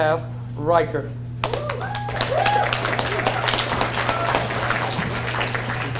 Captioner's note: audience cheers and applauds